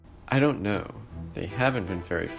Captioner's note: none